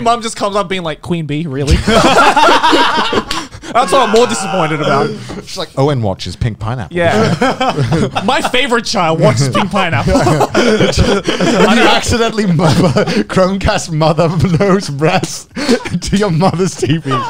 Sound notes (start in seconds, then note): 1.7 all laugh